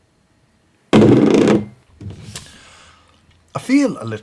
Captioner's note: glass vibrating